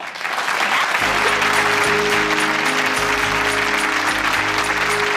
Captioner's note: audience applause